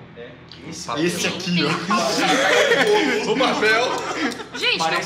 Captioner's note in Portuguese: Risadas